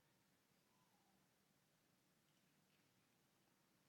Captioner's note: none